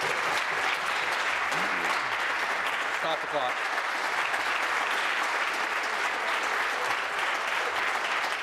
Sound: voice trailing; applause

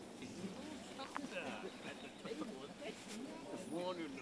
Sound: workers mumbling

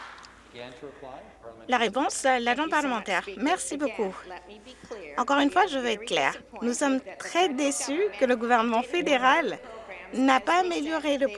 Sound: some Applause

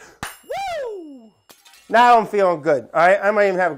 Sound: glass shattering

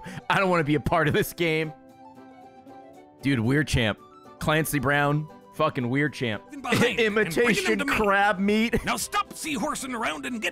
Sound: laughs

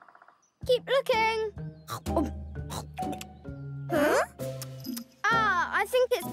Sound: chewing noises

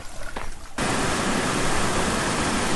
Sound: water rushing

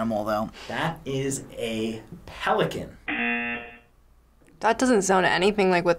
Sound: buzzer rings

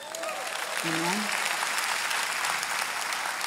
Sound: congregation applauding

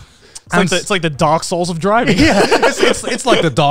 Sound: laughing

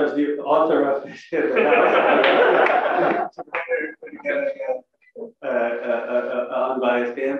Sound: laugh

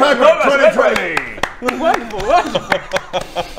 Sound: applause

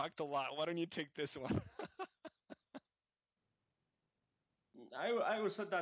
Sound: laughs

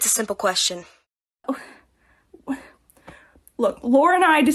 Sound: stutters

